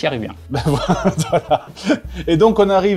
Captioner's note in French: rire